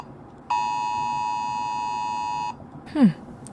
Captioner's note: alarm